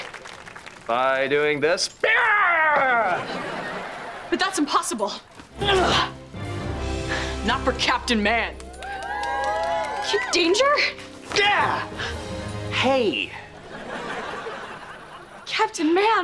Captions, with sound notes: By doing this? Hyah! But that's impossible. [grunting] Not for Captain Man. Kid Danger? Ah! Hey. Captain Man!